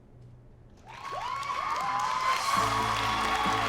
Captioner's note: audience cheers and applauds